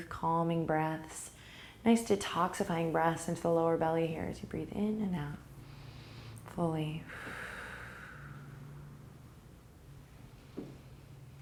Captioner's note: breathe